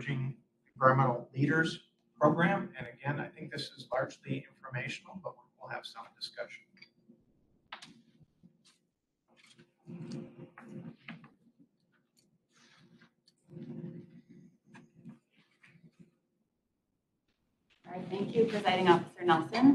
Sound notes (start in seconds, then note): 9.3 people moving seats and shuffling paper